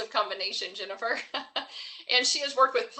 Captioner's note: chuckles